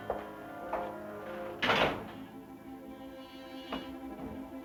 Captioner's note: door closing